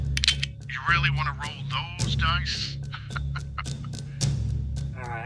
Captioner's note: laughs